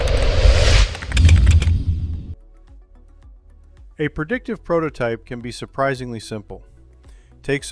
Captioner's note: logo whooshing